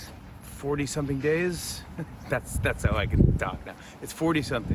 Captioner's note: chuckles